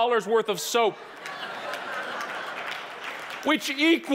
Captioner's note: audience applauding